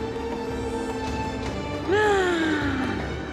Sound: sighs

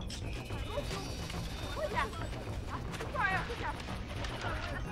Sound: indistinct chatters

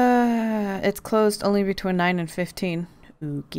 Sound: sigh

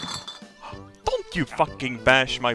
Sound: gasp

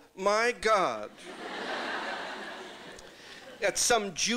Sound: laughter

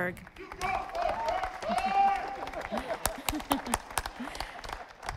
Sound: audience applauding

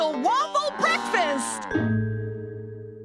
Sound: mooing

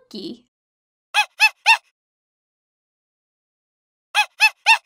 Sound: monkey hooting

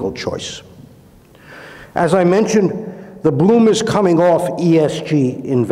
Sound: inhales

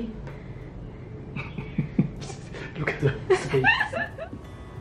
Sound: laughing

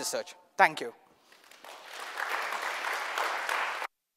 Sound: audience clapping

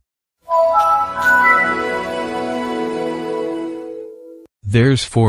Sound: Windows 7 startup plays

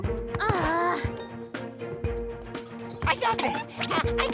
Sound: Fiona groans

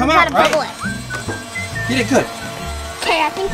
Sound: bubble wands buzzing; whistling tune

